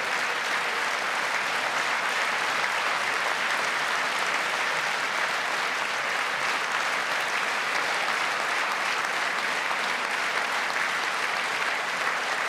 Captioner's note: applause